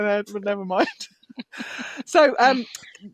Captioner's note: laughs